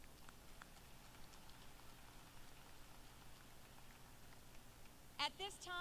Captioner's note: applause